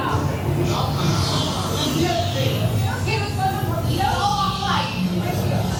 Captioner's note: panicked talking